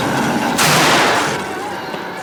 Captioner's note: gunshot